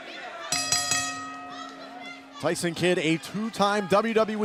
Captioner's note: crowd chatter; bell ringing